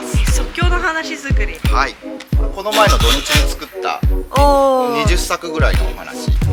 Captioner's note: gentle upbeat music; speak foreign language